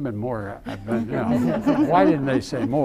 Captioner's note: laughter